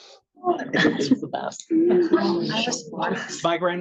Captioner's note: attendees laughing and chattering